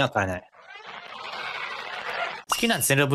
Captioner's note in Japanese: ゾウの鳴き声